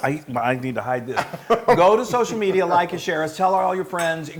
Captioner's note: laugh